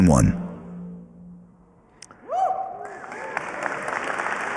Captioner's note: cheering and applause